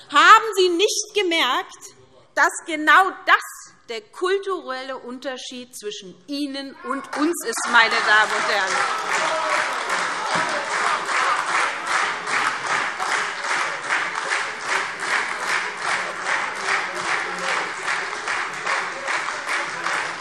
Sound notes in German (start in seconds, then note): 6.9 Anhaltender lebhafter Beifall SPD und Freie Demokraten